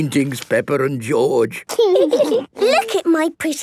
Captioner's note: laughing